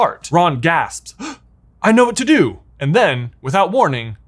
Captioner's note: gasps